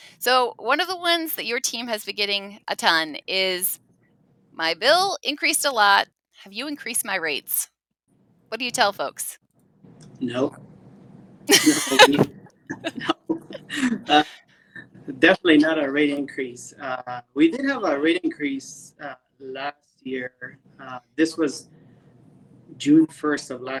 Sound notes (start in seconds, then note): 11.5 laughs